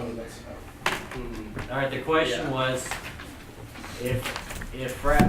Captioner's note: voiceover